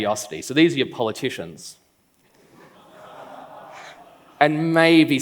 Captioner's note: laughs